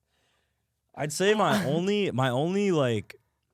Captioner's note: laughs